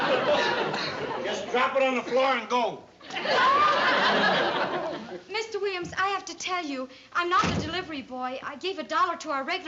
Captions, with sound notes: Just drop it on the floor and go. [laughter] Mr. Williams, I have to tell you. I'm not a delivery boy. I gave $1 to our regular delivery boy because--